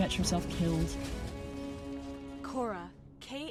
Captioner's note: metal crashing